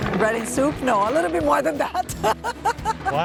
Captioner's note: laughs